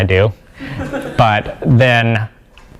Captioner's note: laugh